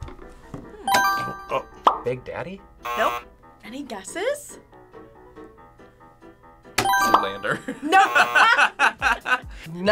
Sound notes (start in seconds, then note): 0.1 buzzer rings; 2.8 buzzer; 7.5 both laugh; 7.6 laughs; 7.9 buzzer rings; 8.0 buzzer